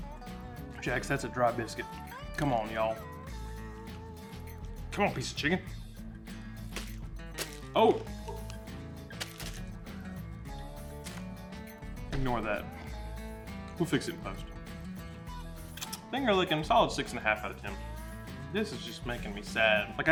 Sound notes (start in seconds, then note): 7.3 biscuit flopping